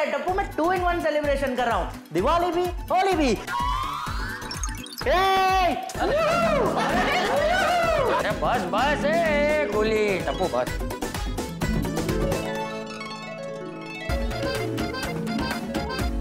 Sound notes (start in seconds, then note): 6.0 cheering; 14.1 comical music playing